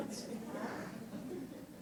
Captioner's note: laughter